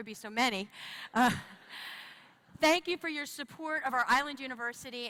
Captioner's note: laughter